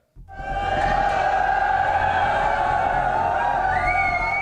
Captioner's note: crowd cheering